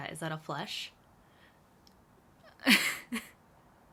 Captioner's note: laughs